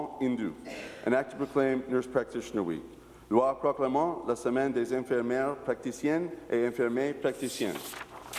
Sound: speaking in french

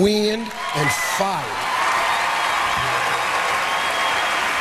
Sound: audience cheers

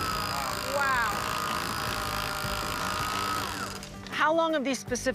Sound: whirring continues

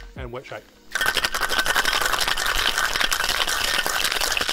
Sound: wet shaking

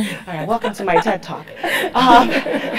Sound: laugh

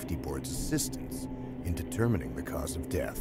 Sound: voiceover

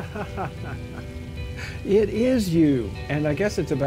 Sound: laughing

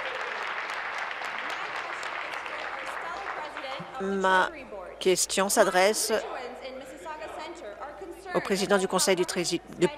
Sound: applause

